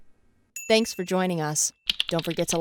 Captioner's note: ringing